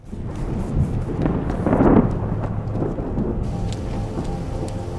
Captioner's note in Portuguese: trovoada